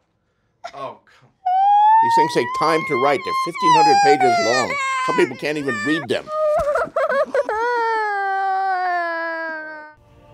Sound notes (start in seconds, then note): 0.1 sobs; 6.6 wailing